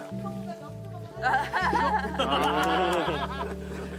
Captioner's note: laughs